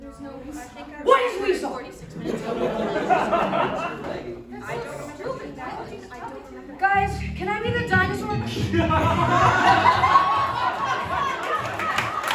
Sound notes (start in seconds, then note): 2.4 overlapping bickering